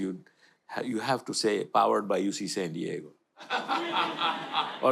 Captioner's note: audience laughter